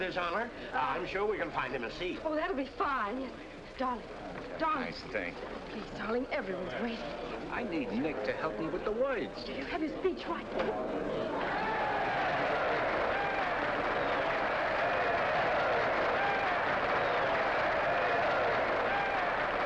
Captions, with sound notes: There's someone with His Honor? I'm sure we can find him a seat. Oh, that'll be fine, yes. Darling. - Darling. - Nice thing... Please, darling, everyone's waiting. I need Nick to help me with the words. You have your speech right there. (crowd cheering) (crowd applauding)